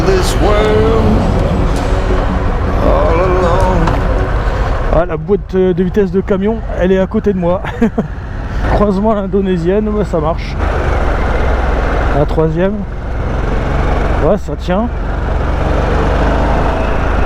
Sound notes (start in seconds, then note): 7.4 laughs